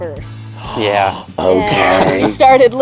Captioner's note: gasping; laughing